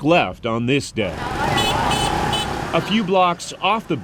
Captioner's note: honking